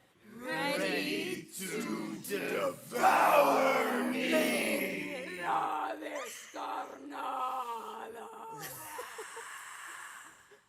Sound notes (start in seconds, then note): 5.5 speaking Spanish